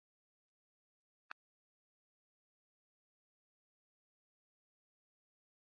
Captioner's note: silence